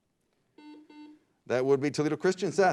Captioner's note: beep